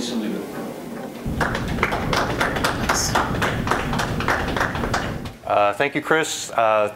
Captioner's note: applause